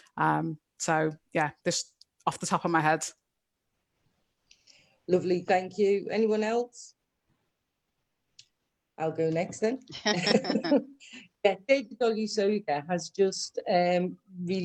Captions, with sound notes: so yes off the top of my head Lovely thank you anyone else [silence]... I'll go next then [laughs] so David Olusoga has just released a short